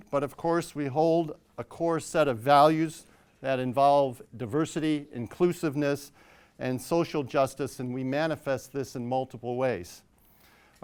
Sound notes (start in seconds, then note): none